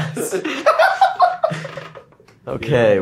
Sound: Gaten laughs

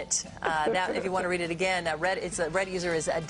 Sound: laughter

